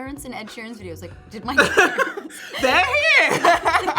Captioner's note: laughing